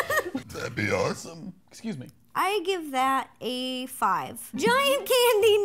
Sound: burps

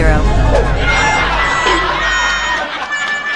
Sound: laugh

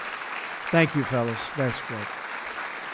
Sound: applause

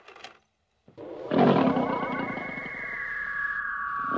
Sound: growls

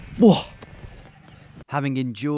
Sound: grunts

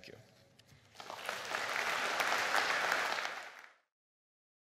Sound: audience claps

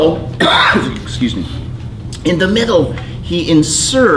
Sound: coughs

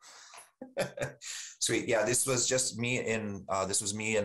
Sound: chuckles

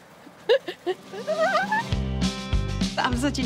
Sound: giggles; laughs; squeals

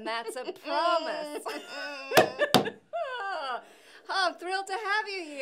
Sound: laughing; banging

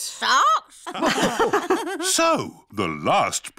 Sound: all laugh

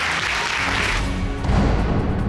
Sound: audience applauding

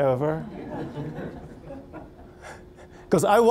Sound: audience laughing

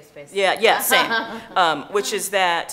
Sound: chuckling

